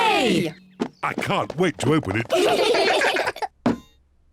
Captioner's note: all giggle